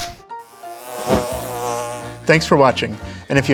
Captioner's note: bee buzzing